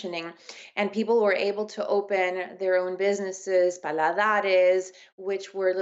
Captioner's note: speaking spanish